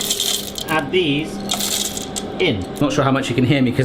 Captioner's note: chocolate clattering; machine humming